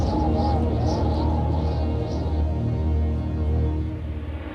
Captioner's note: wind howling; airplane engine roaring